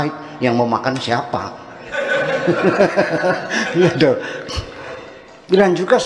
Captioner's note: laughs